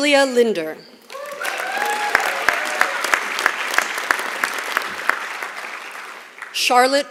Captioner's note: applause